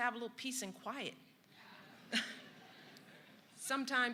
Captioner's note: laughter